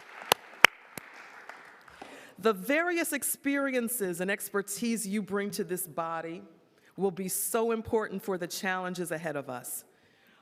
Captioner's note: applause